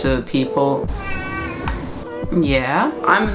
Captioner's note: cut miaowing